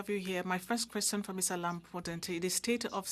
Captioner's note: speaking French